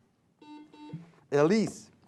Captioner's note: buzzing sound